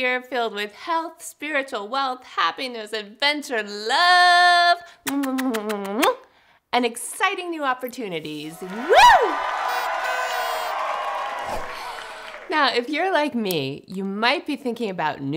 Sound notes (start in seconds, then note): 5.0 kisses; 8.5 cheering; 10.0 horn blowing